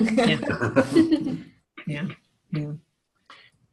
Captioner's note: laughing